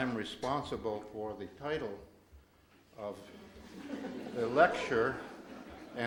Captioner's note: audience giggles